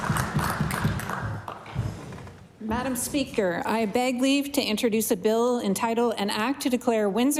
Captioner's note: applause